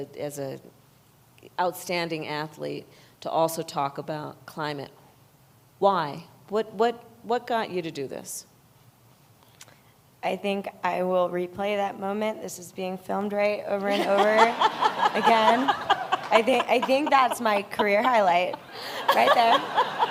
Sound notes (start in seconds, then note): 13.9 laughter